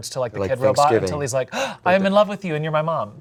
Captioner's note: gasps